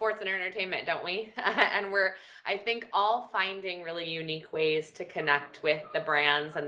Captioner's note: laugh